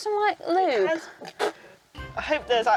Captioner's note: snorts